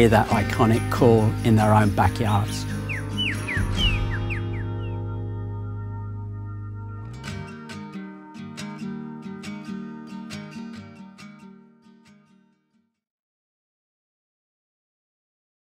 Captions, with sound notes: that iconic call in their own backyards. (birds tweet) (light acoustic music)